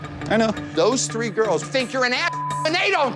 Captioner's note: beep